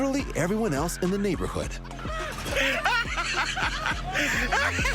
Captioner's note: laughter